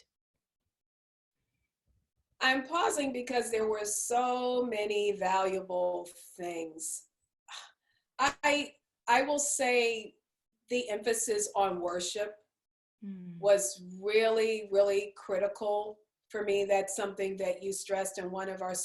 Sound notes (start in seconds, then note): 7.2 sighs